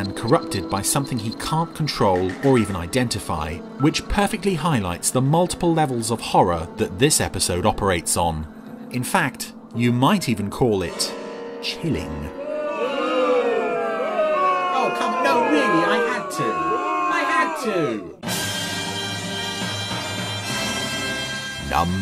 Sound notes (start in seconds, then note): 12.4 people booing; 18.2 dramatic music